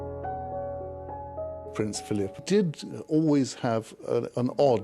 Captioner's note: voiceover